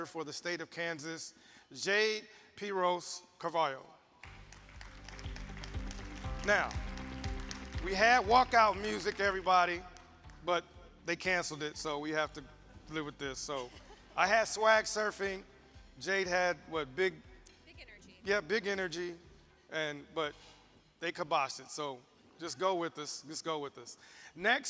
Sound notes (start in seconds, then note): 4.2 audience applauds